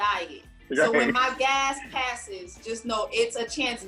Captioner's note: laughing